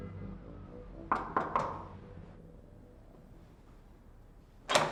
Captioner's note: knocking